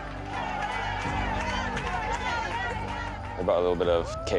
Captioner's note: cheering